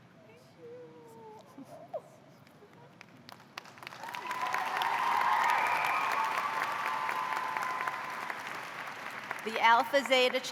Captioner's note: cheers and applause